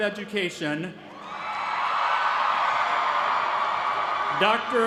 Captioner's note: applause